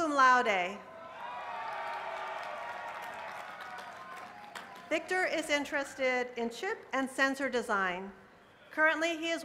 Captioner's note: cheers and applause